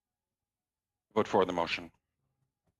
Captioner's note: speaking in French